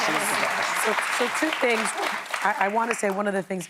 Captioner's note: applause